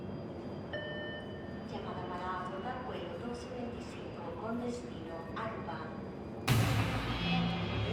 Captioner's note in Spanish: voz en el parlante